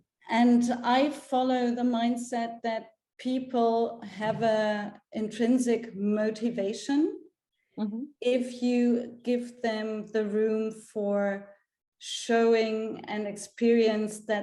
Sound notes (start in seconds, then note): none